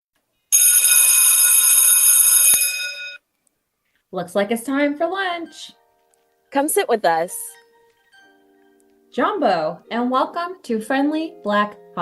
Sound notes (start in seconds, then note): 0.5 lunch Bell Rings